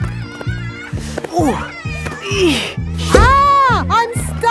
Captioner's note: grunting